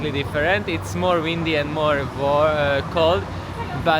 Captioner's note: traffic sound